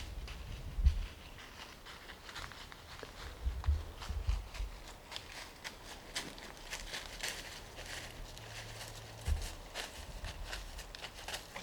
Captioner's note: footsteps heard